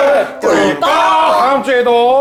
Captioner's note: gulping